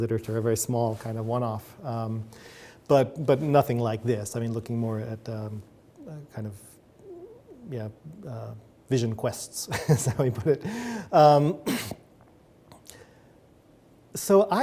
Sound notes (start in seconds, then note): 12.9 chuckles